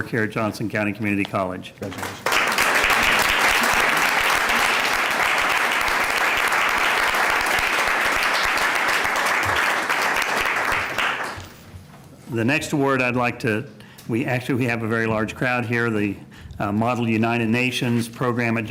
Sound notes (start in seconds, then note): 5.2 applause